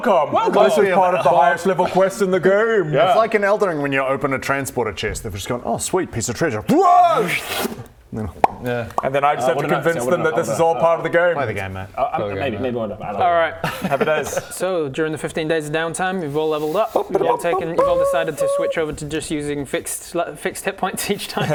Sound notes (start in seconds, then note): 8.4 pop!; 17.1 chicken fanfare